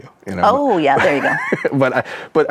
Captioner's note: laughs